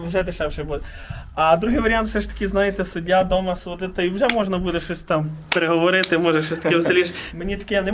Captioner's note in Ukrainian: Сміються